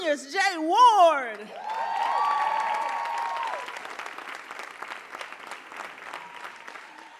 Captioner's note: audience cheering and applauding